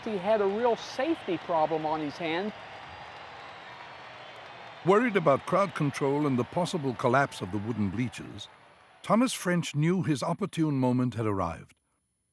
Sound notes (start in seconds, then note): 4.8 crowd cheering